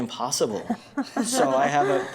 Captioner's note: laughs